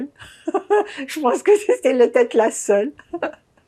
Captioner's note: laughing